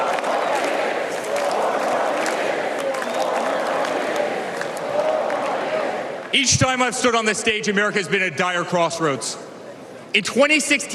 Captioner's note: cheers and applause